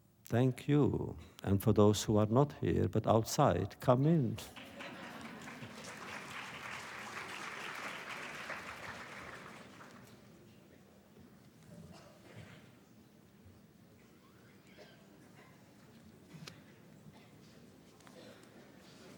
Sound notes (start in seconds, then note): 4.4 applause